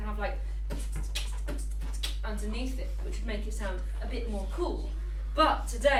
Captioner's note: teacher beatboxes